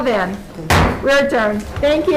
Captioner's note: gavel bangs